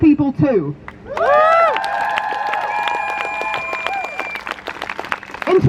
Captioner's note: crowd Cheers